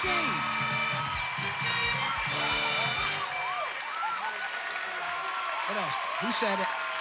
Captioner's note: audience applauding